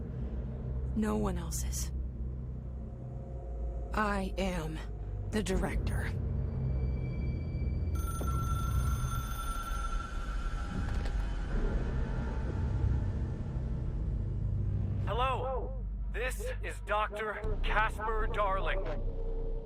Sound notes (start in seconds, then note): 7.9 phone rings